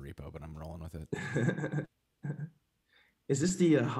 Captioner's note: chuckles